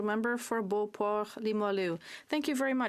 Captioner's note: speaking French